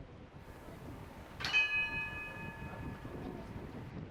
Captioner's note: bell chimes